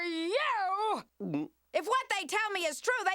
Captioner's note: gulps